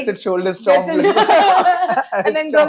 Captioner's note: laughs